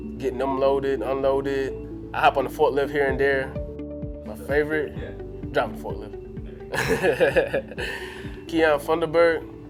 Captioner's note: laughs